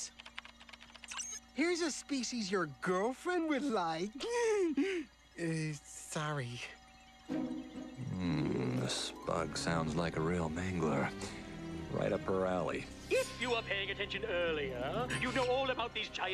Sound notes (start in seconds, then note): 4.1 laughs